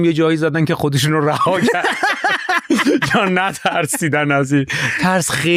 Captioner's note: laughs